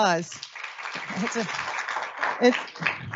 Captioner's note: audience applauds